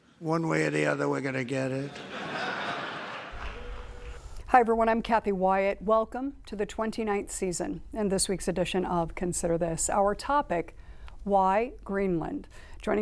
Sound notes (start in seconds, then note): 1.8 audience laughs